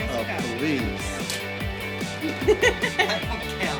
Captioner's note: laughs